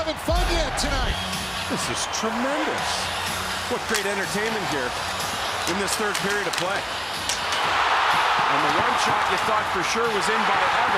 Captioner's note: cheering and Applause; horn Sounding